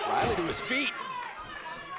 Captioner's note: crowd chatter